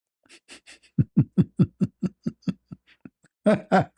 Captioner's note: ketawa